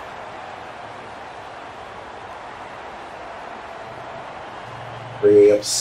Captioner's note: crowd cheering